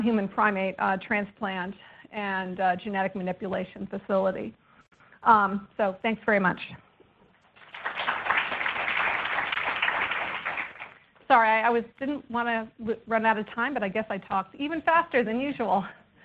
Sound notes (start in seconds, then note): 7.5 applause